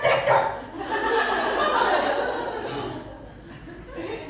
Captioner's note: laughter